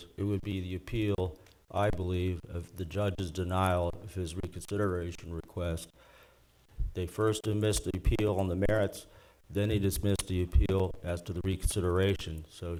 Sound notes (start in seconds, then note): none